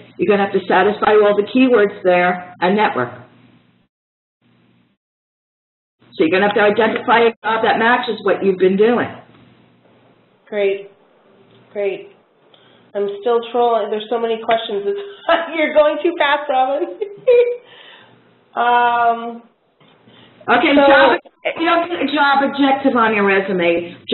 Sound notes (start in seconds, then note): 16.8 laughs